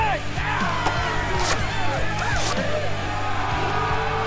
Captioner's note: battle Cries